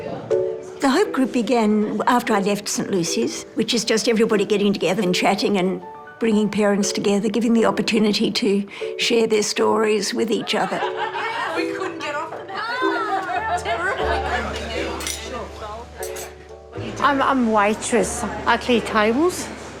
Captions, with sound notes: The Hope Group began after I left St Lucy's, which is just everybody getting together and chatting and bringing parents together, giving the opportunity to share their stories with each other. (LAUGHTER, CHATTER) I'm a waitress. I clear tables.